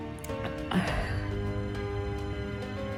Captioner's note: exhales